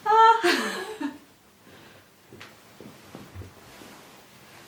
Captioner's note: creator laughs